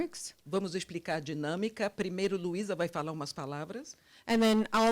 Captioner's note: translator speaking Portuguese